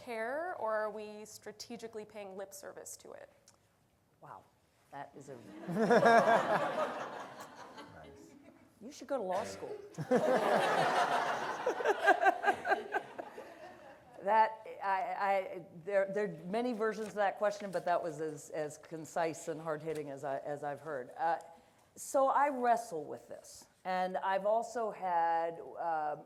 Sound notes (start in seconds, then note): 5.6 audience laughs; 9.9 audience laughs